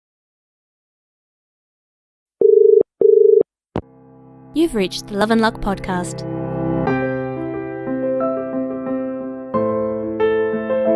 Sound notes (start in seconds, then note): 2.4 dial tone